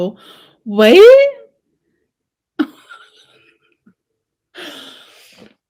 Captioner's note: laughs